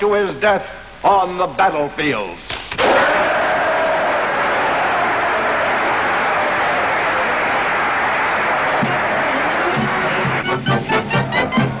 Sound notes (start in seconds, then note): 2.7 audience clapping; 2.7 audience cheering; 8.8 bright lively music; 11.6 crowd cheering